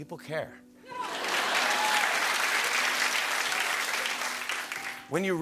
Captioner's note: laughter and applause